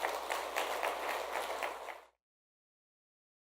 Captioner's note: clapping